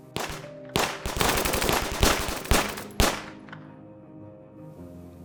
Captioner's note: gunfire